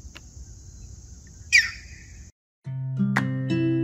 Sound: bird chirps; joyful upbeat music

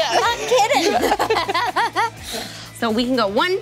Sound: laughing

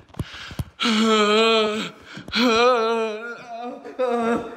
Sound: Chad groaning

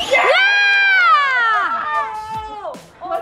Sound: cheering

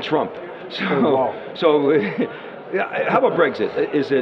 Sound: laughs

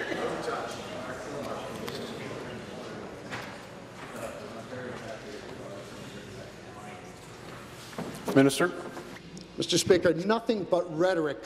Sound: conversation din

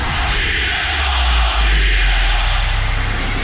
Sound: CM Punk chants

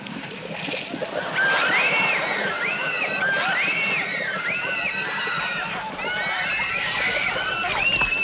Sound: girls screaming

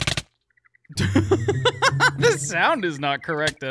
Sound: laughs

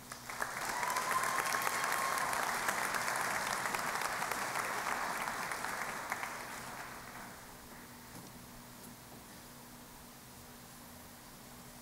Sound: applause

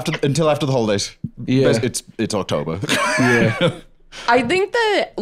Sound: laughs

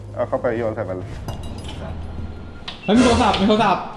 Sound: phone ringing

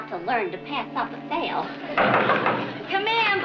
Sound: brisk knocking on door

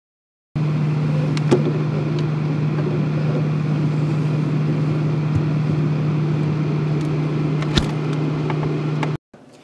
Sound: refrigerator fan noise

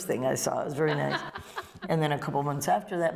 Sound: laughter

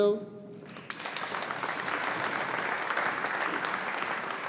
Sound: audience applauding

